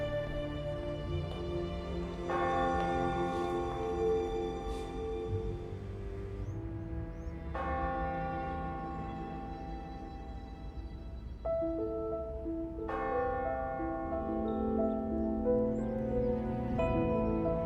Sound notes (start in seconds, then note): 1.9 church bell ringing; 7.1 church bell ringing; 11.1 mystical piano music